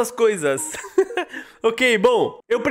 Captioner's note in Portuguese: Risos